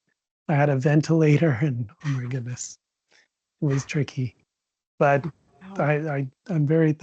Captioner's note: giggles